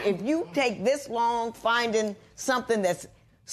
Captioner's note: none